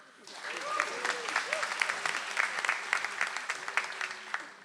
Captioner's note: audience applauds